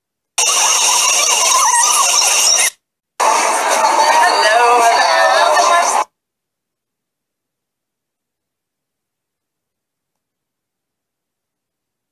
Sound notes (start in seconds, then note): 0.4 high pitch fast forward noise; 3.2 people talking in background